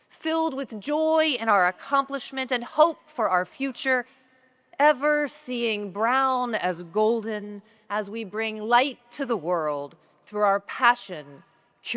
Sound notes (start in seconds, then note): none